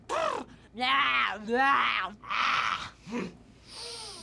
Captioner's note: bucky trilling; bucky hollering; bucky deeply inhales